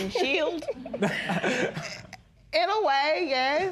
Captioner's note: laughs